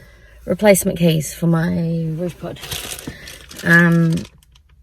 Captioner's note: packet rustles